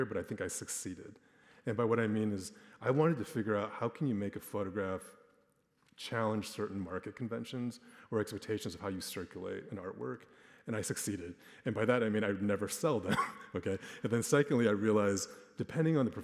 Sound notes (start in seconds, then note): 13.0 chuckles